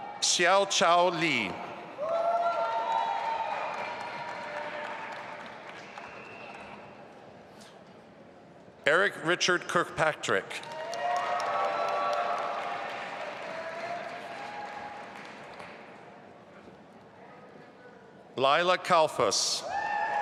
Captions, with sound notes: Xiaochao Li. (audience applauding) Eric Richard Kirkpatrick. (audience applauding) Lilah Kalfus.